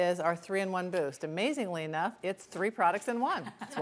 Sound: laughs

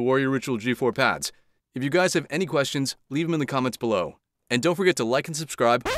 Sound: record scratch

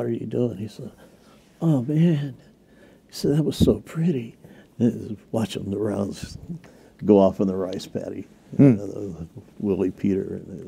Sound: stoned voice

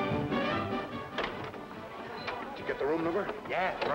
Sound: door opening and shutting

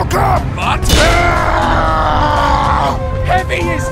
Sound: The KV-122 screams

